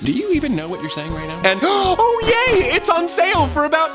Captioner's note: gasps